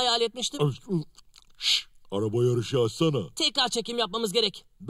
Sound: eating

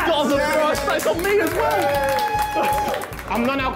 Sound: onlookers cheering and clapping

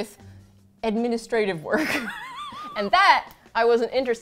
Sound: laughs

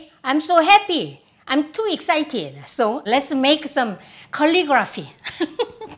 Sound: laughter

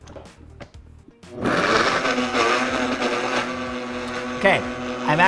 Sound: blender whizzing

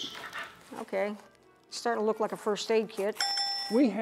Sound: ding, ding

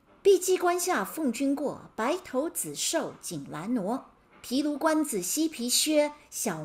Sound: speaking in Mandarin

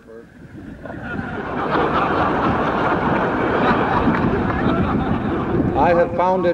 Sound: laughter

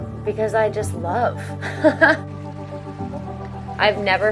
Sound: chuckles

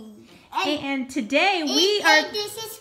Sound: voiceover

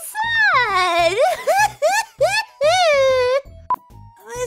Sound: mock sobbing

